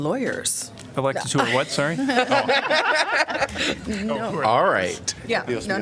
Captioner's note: laughter